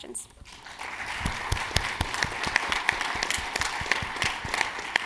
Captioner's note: audience applauding